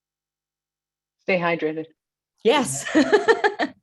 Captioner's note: laughs